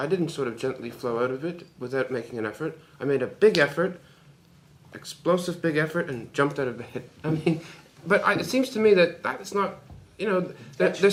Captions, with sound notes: I didn’t sort of gently flow out of it, without making an effort. I made a big effort, explosive big effort, and jumped out of bed (laughs). I mean... But it seems to me that that’s not, you know, there’s some...